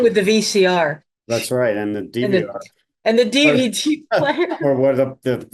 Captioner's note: laughs